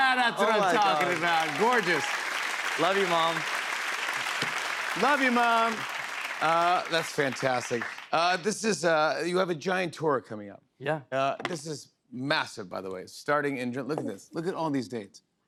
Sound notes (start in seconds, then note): 3.6 applause